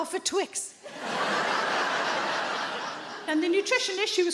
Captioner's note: audience laughing